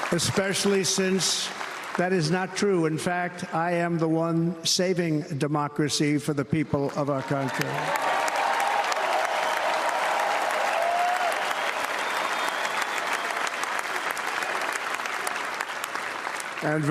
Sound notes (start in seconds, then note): 7.4 applause